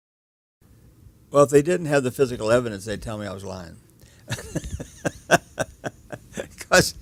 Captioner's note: chuckles